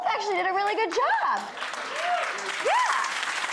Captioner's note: audience applauding